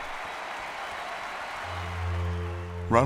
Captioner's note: applause cheering